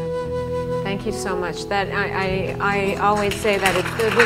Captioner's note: applause